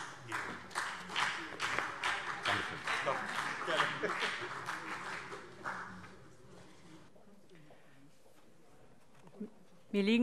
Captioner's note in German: Beifall CDU und BÜNDNIS 90/DIE GRÜNEN